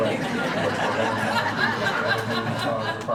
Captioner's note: laughing